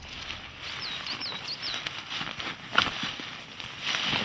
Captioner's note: shuffling